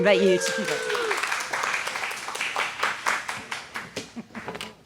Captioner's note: audience applauding